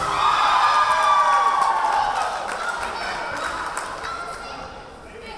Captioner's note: cheering; clapping; yelling